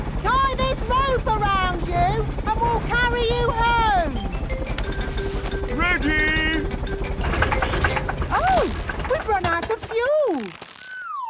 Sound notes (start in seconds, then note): 7.2 helicopter engine sputtering